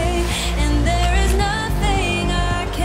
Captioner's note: camera clicks